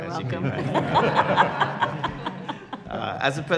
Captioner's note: laughter